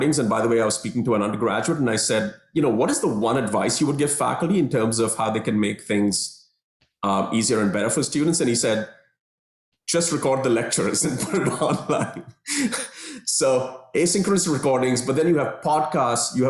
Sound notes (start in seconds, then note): 11.1 laughter